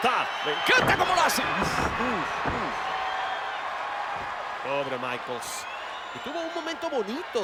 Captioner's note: applause